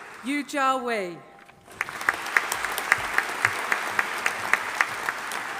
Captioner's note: audience applauding